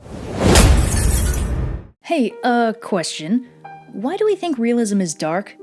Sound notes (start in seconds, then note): 0.4 wham!